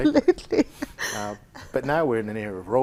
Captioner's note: laughing